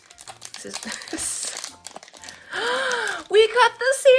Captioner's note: gasps